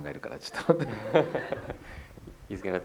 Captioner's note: laughter